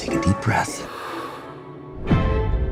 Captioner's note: exhales